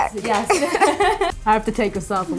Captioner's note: laughing